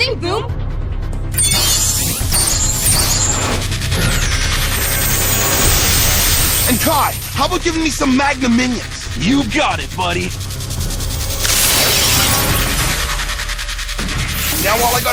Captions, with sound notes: Now all I gotta do is throw in a little Sonic Slap and I've got me a winning combo. Well, you'd better do it quick before you lose your chance. Screech Stunner! (whoosh) Aaahhh!